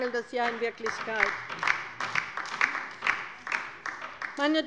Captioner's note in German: Beifall bei der LINKEN